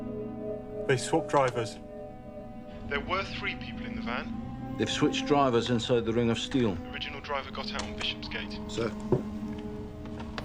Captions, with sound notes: They swapped drivers. There were three people in the van. They've switched drivers inside the ring of steel. (man over phone) The original driver got out on Bishopsgate. Sir.